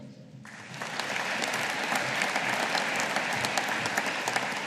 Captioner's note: audience applauding